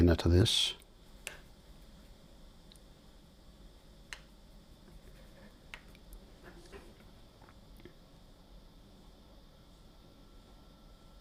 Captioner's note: silence